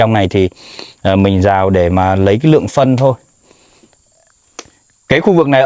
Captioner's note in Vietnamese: khịt mũi